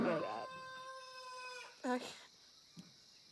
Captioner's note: cackling